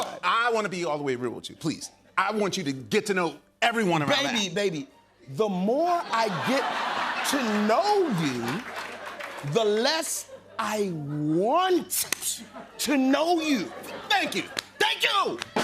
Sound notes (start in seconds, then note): 7.9 laughter